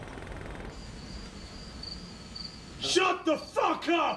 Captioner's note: insects chirping